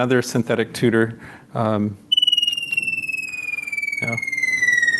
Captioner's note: bird song